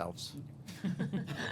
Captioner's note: laughter